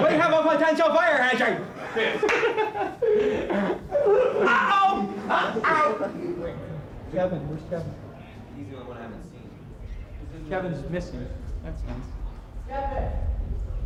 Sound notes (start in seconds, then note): 1.8 off camera laughter